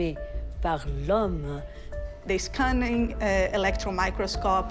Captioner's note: in English